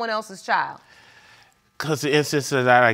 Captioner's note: stammers